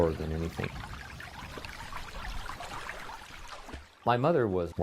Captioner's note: background - Water rippling